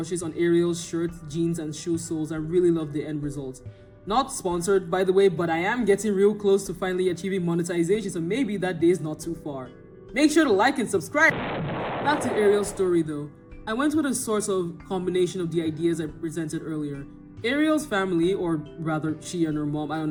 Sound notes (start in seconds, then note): 11.3 boom